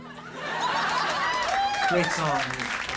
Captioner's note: audience laughing